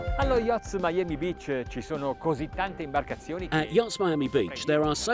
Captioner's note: speaking in foreign language